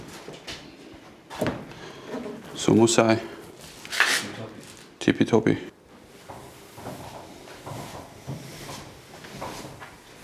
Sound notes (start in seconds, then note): none